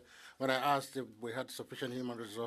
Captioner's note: speaking French